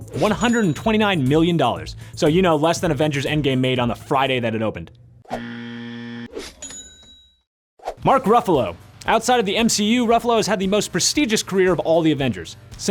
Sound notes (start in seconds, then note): 5.3 buzzer buzzes; 6.6 cash register dings